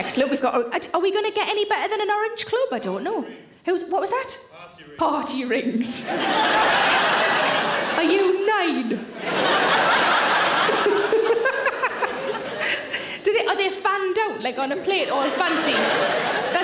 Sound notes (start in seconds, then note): 6.0 audience laughs; 10.6 Sarah laughs